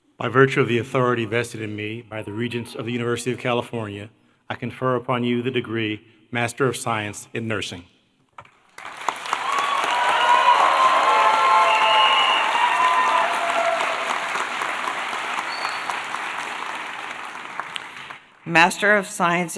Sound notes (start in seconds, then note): 8.5 applause